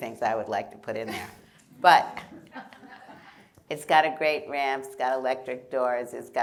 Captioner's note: laughter